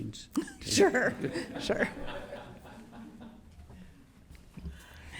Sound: people laughing

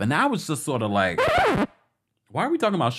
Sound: record scratching

